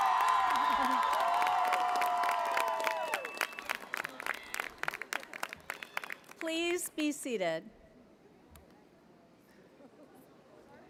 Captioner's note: cheers and applause